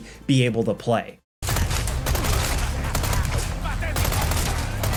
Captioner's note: gun banging